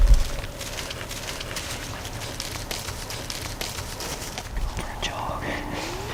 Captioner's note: sound of walking